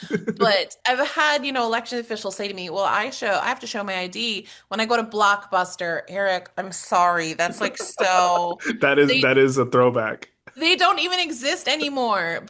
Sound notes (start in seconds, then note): 7.4 laughs